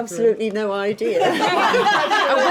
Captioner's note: laughing